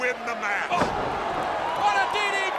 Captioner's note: crowd cheering